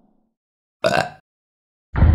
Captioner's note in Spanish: Eructo